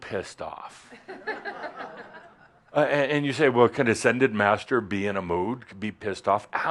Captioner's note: some chuckles